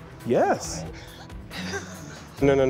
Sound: laughs

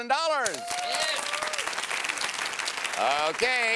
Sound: cheering

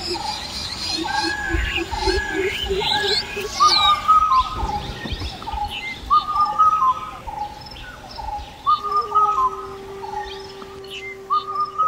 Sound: barbet Call, Peafowl Call, Cuckoo Call

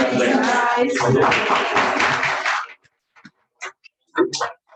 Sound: applause

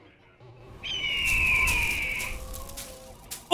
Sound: squawking

